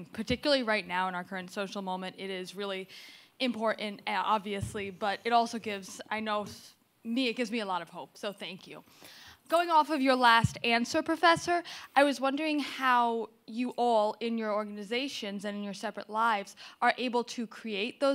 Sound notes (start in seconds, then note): none